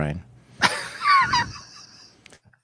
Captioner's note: laughing